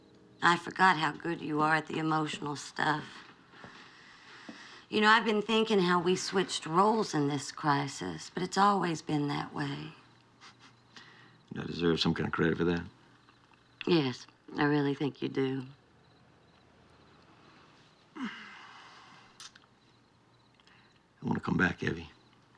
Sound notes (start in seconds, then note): 10.4 chuckles; 18.1 cal sighs